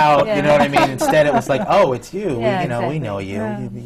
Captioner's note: laughter from the panel